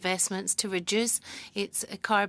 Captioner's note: speaking french